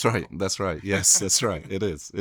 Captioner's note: chuckles